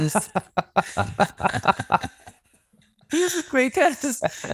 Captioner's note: both laugh